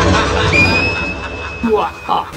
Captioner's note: whispers in the background: profit cash profit; screaming in background; laughing in background